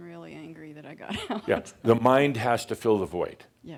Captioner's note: she chuckles